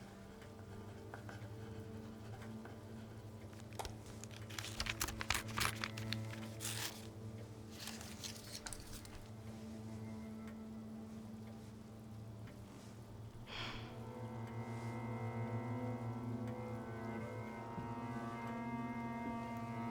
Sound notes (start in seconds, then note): 0.3 pen scratching; 3.6 paper ripping; 13.4 Rachel sighs